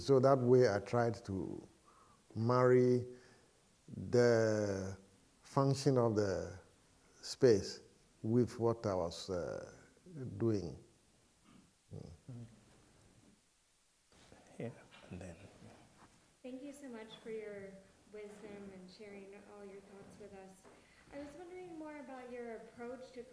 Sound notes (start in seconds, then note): 16.6 voiceover